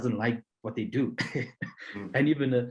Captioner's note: chuckling